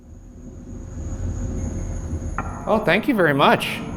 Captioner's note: deep ominous music; REM pod screeching